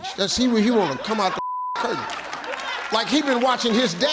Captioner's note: beep